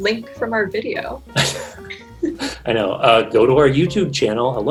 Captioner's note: laughing